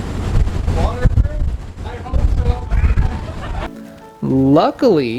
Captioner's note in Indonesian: tertawa